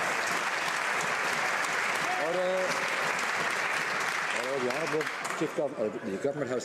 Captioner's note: some Applause